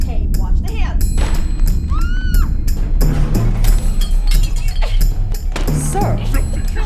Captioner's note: crash, woman's scream, bottles scattering